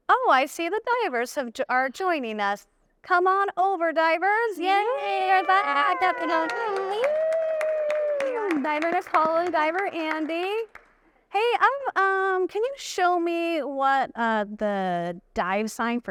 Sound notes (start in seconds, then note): 6.9 audience applauding and cheering